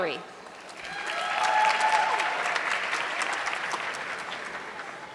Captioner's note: audience clapping